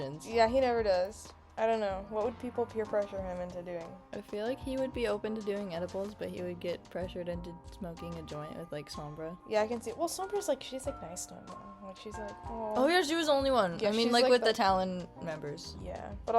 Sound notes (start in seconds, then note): none